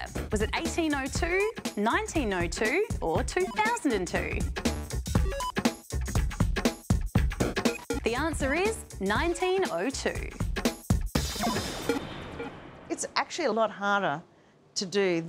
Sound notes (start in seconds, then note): none